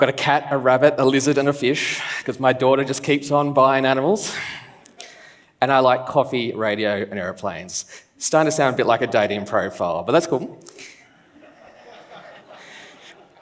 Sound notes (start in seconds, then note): 5.0 laughs; 10.8 laughs